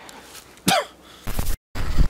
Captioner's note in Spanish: Tos